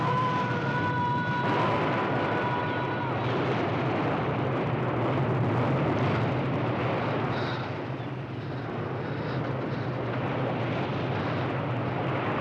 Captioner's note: voice echoes; waves crashing